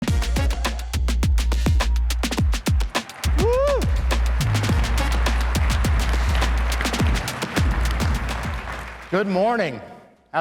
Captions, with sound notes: (upbeat music) (crowd cheering) Woo. (crowd clapping) Good morning.